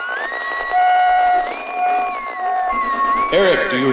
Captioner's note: static buzzing